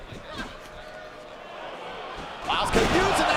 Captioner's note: fighters grunt